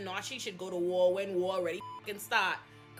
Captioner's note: beep